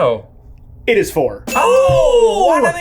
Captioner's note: bell dinging